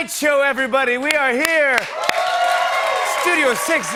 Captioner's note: cheers and applause